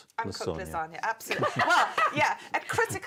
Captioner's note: laughs